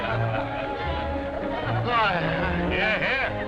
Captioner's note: sighs